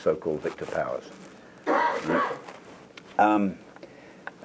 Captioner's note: cough